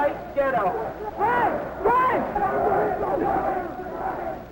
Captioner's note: crowd chanting